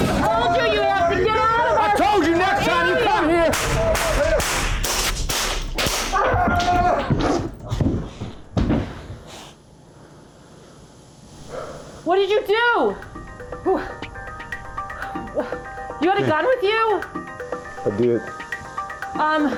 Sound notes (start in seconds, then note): 0.2 yelling; 3.5 gun shots